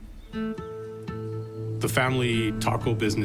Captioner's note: birds chirping; gentle music